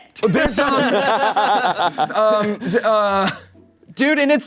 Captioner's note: everyone laughs